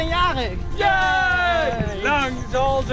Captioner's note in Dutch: juichen